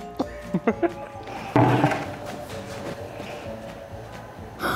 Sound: interviewer laughs

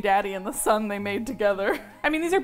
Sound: laughs

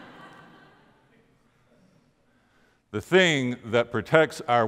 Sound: crowd laughing

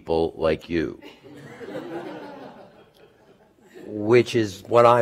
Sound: laughter

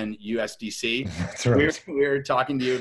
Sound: chuckles

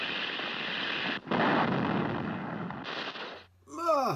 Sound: crash!

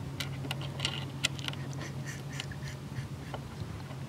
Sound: quiet wheezing laughter

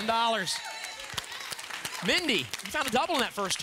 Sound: audience applause

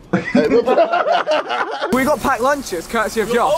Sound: laughing loudly

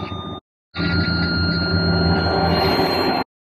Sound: 65 MPH Target Tone; 80 MPH Target Tone

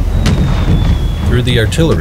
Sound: weapons whistling; artillery booming

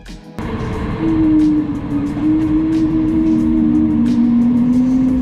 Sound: airplane engine roaring

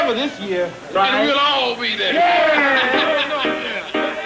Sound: cheering and shouting; cheering and laughing; carefree music

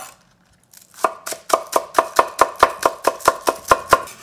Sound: green onion chopping

